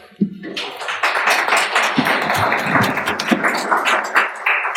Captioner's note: applauding